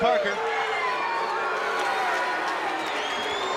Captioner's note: crowd yelling